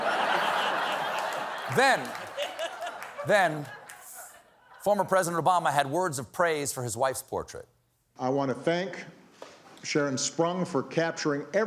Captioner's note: laughter